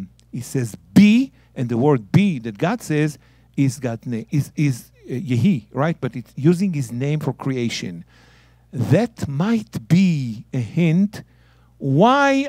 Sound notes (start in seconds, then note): 3.9 speaking in Hebrew